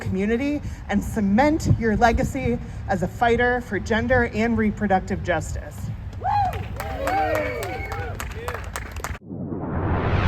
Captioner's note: applause and cheering